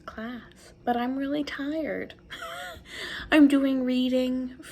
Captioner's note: giggles